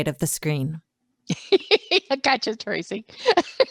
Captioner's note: laughs